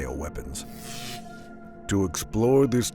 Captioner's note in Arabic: طقطقة الكهرباء